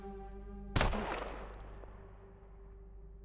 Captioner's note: gunshot